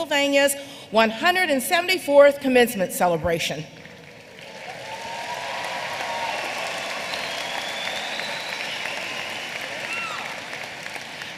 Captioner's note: applause